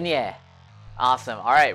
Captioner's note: foreign language